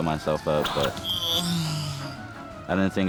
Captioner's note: grunts